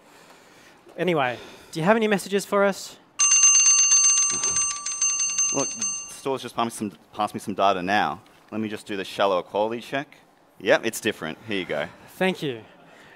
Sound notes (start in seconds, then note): 3.2 bell ringing